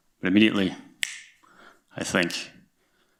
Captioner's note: snaps